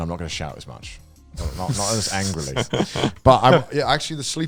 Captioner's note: laughs